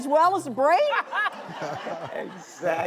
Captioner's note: audience laughing